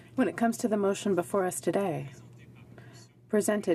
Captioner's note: speaking French